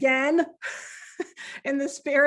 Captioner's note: giggling